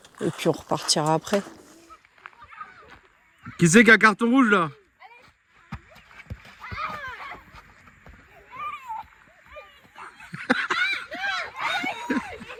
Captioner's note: laughs